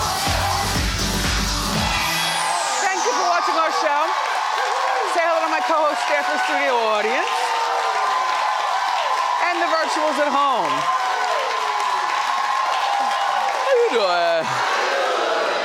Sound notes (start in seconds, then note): 4.4 crowd cheering; 8.2 crowd cheering